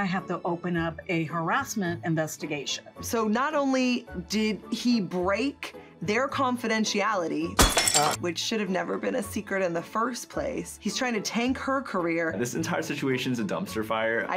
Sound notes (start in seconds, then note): 7.6 glass clanking